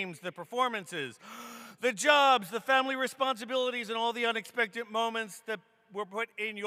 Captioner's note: gasps